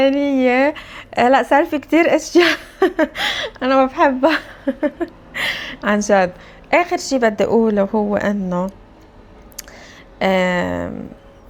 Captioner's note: laughs; laughs